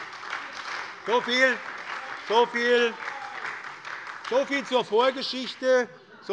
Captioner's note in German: Beifall bei der SPD